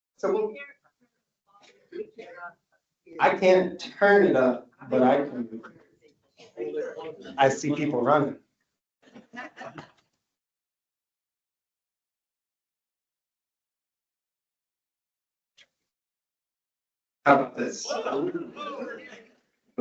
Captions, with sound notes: I can't turn it up, but I can, I see people running. (audience laughs) How about this? (audience members speaking indistinctly)